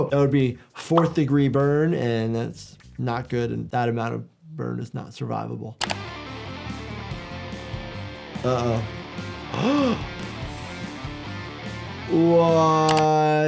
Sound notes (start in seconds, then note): 5.9 heavy rhythmic music continues; 9.5 gasping